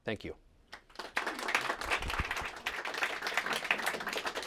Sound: applause

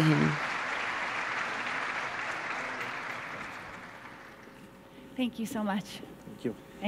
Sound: applause

